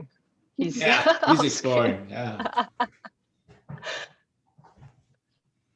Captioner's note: laughter